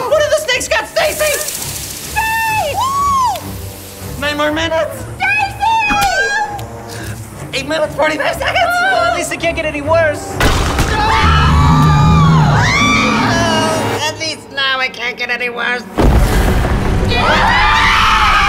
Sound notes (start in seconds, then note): 2.9 yelling; 10.8 screaming